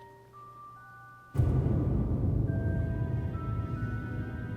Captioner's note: dramatic boom